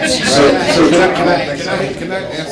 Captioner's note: all chattering; audience laughing